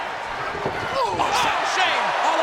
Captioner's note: Shane groans